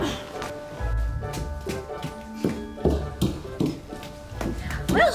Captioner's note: fast footsteps